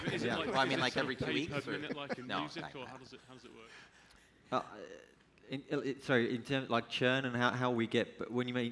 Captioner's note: laughter